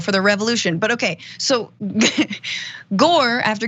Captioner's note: laugh